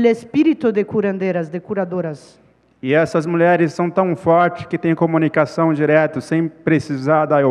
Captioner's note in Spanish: ponente habla en portugués